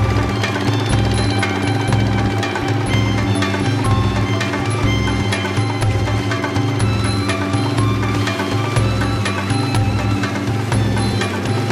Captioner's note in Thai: เสียงเรือ